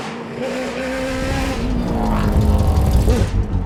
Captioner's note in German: Motor heult auf